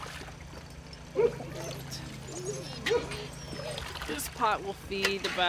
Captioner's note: dogs barking